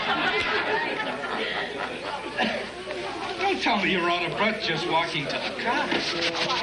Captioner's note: laughter